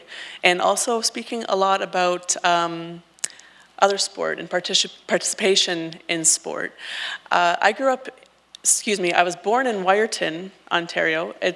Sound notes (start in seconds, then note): none